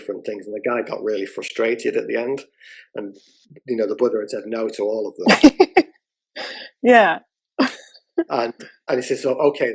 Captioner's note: laughter